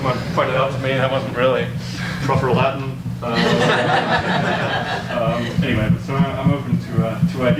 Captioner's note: audience laughs